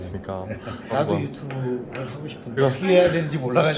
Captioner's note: laughing